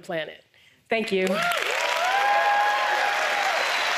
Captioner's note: applause